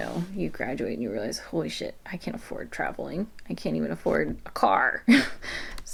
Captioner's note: laughs